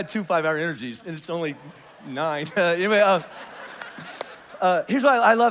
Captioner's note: congregation laughs